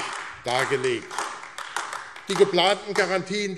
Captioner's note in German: Beifall AfD